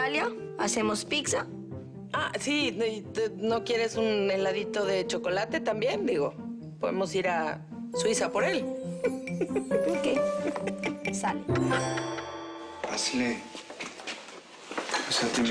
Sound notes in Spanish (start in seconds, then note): 9.0 Ríe